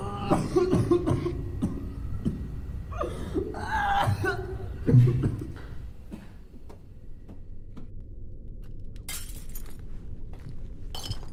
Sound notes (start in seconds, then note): 0.0 retching, coughing; 9.1 glass breaking